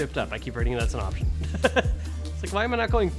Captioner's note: laughing